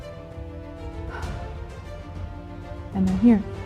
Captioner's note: exhaling